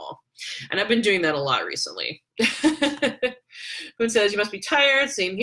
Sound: laughs

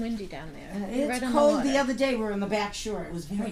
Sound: voiceover

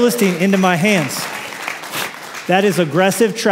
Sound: applause

